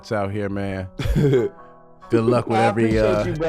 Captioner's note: chuckling